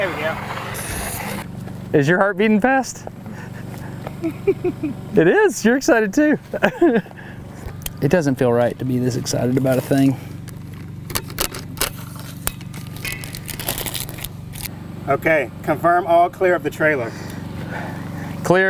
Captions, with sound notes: There we go. Is your heart beating fast? [laughs softly] It is? You're excited too. It doesn't feel right to me, this excited about a thing. - Okay, confirm all clear of the trailer.